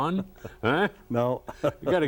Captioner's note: laughing